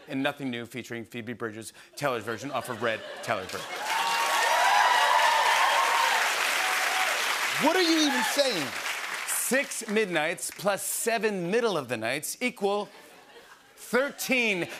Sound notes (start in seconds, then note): 3.5 cheers and applause